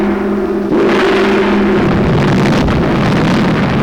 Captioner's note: roaring Fire